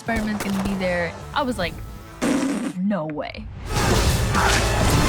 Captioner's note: blows raspberry